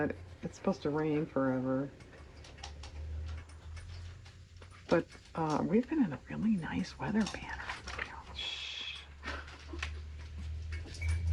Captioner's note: laughs